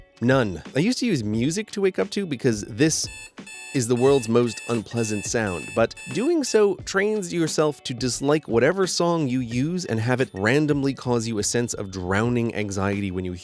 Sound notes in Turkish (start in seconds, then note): 3.0 alarm sesi